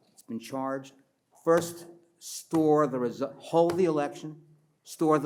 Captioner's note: pats table